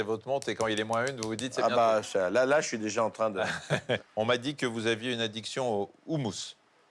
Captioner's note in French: rires